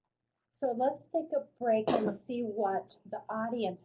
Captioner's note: voiceover